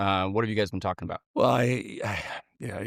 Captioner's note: sighs